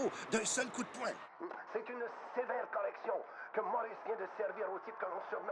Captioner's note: radio